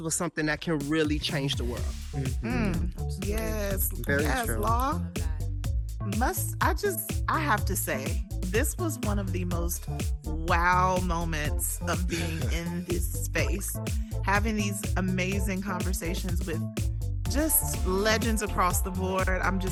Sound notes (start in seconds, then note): 12.1 chuckling